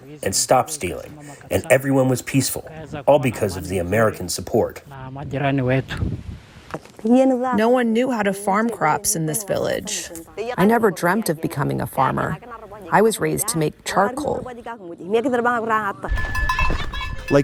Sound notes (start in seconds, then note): 6.9 through translator